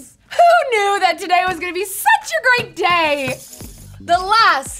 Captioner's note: bats squealing